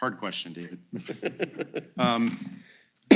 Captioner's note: laughter